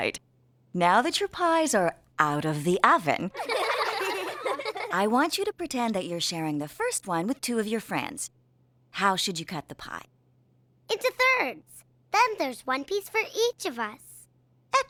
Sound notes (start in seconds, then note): 3.3 giggling